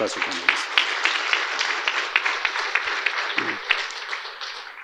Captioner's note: audience applauding